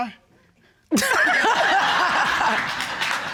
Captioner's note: laughter